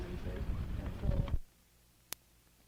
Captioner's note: static